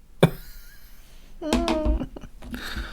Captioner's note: laughs